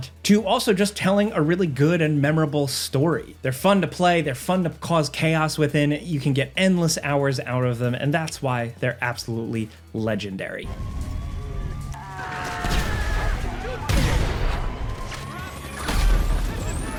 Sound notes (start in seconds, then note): 10.7 alarm blares; 11.9 Trevor screams; 12.2 explosions boom; 13.9 shotgun booms